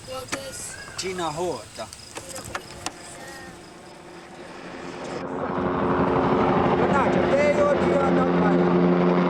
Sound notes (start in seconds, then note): 0.0 speaking Mohawk; 1.1 helicopter